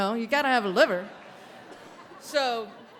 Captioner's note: audience laughing